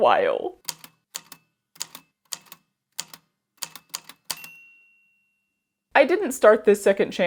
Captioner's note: A typewriter clicks away, then dings